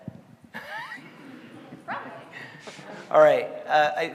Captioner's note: all laughing